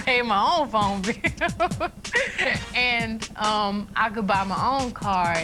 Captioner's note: laughs